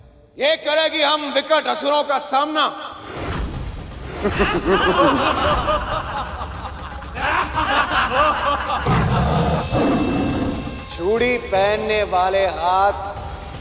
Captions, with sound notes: Will they be able to face deadly demons like us? [laughs] [lion roars] Hands that adorn bangles